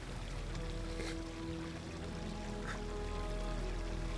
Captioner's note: sniffling; gentle music